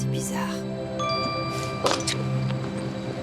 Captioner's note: phone chimes